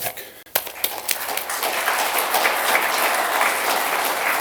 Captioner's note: applause